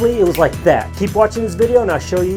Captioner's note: snaps fingers